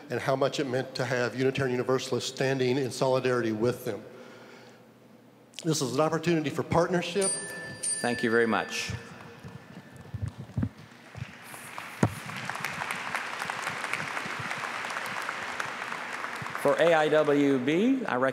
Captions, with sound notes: THE IMAMS REPEATEDLY EXPRESSED THEIR GRATITUDE AND HOW MUCH IT MEANT TO HAVE UNITARIAN UNIVERSALISTS STANDING IN SOLIDARITY WITH THEM. THIS IS AN OPPORTUNITY FOR PARTNERSHIP. >>> THANK YOU VERY MUCH. [APPLAUSE]